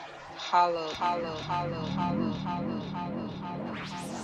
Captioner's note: echoes